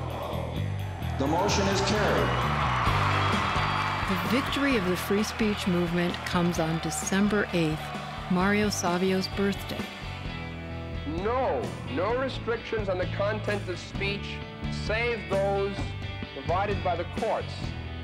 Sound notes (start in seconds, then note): 3.3 audience cheering